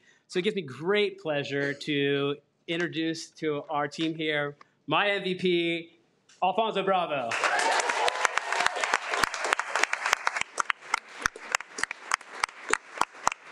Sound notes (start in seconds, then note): 7.3 audience cheering